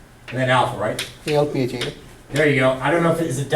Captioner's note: voiceover